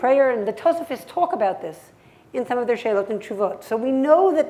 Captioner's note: hebrew